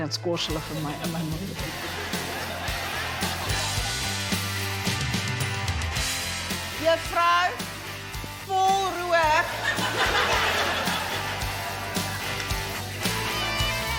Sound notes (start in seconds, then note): 9.4 laughter